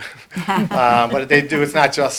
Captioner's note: group laughter